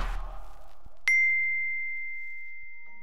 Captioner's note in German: Klingeln